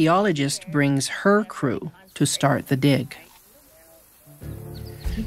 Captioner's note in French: gazouillis d'oiseaux